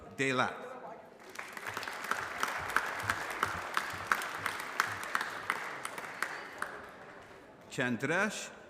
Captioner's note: applause